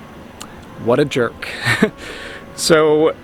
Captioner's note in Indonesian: tertawa